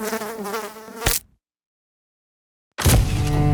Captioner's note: fly buzzing; fly splatting; mysterious music